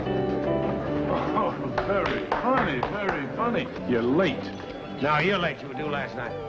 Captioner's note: claps